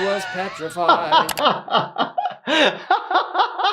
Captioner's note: laughing